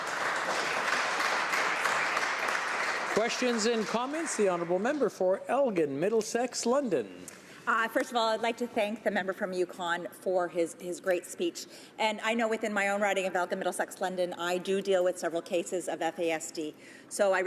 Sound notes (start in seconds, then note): 4.4 some Applause; 5.1 applause